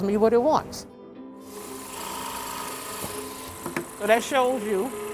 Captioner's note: drills whirring